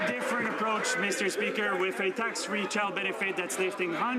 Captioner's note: some Applause